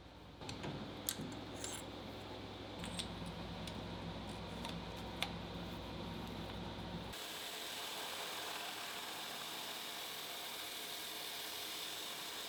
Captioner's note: machine whirring